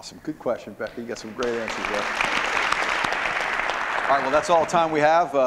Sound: applause

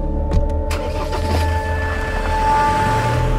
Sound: vehicle Starting Sound

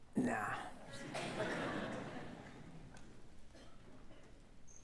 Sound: audience laughing

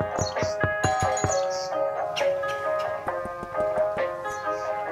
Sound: birds chirping; knocking on door; doorbell chiming; soft hip-hop music

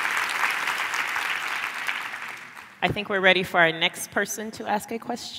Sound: applause

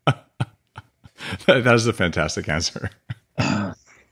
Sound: laughs

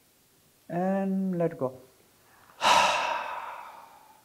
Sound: exhales

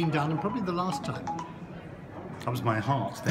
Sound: phone beeps

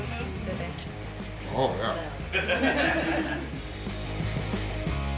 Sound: crowd laughter

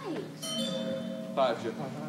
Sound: chimes ring

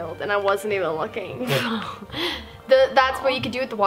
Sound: laughing

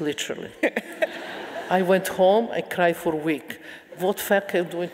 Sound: laughing

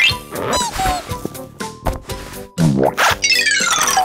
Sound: squeaking

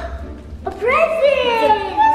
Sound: bright music; gasps

